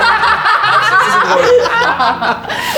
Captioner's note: the group bursts out laughing